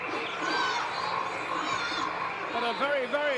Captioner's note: audience cheering